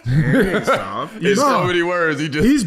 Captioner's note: laughing